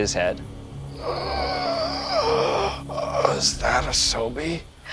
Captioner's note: gasping for breath